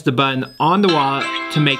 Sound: phone rings

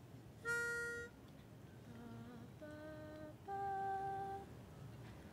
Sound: whistle sounds quietly

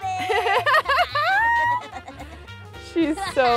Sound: laughs

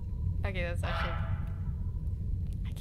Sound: quack

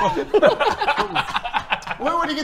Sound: hysterical laughter

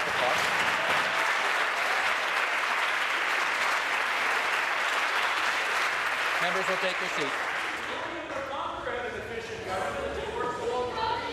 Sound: applause

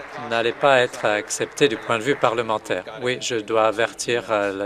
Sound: applause

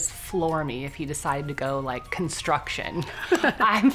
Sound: laughs

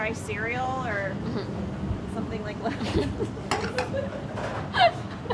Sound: both laugh

